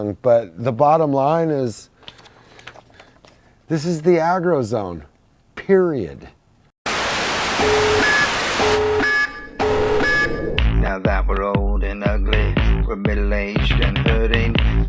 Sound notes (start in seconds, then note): 6.8 static noise; 9.0 beeping